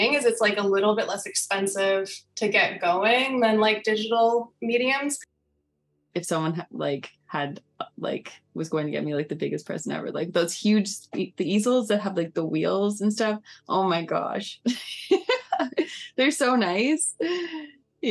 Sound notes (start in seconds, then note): 14.5 laughing